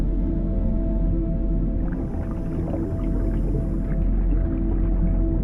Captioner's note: bubbles burbling